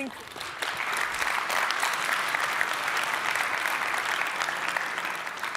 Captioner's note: applause